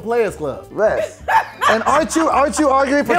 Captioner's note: laughing